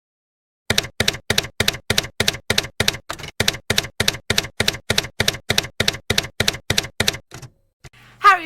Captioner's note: typewriter keys clacking